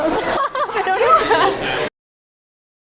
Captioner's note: laughter